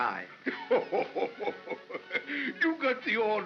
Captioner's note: Santa laughs